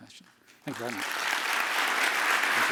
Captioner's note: applause